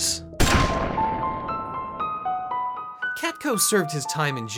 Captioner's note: tense music; gun fires